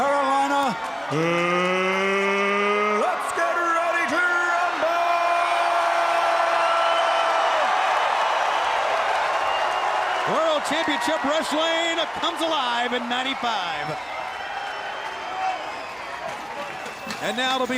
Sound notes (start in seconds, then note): 7.4 crowd cheering